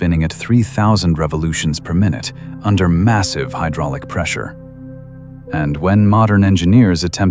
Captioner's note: breath